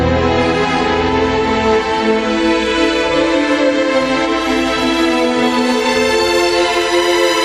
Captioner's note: none